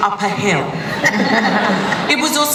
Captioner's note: laughter